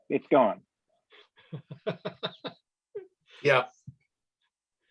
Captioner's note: laughs